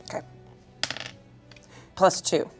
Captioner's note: dice rolling